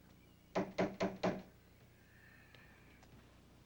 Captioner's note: knock knock